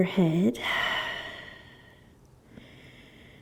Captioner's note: exhaling